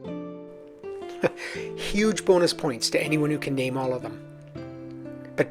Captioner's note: chuckles